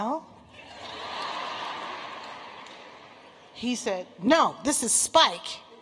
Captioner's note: laughter